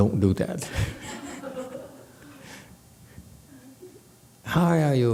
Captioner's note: audience laughs